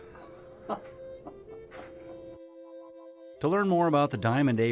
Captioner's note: laughing